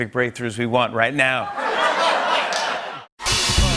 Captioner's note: laughter